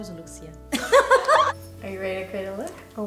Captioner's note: shared laughter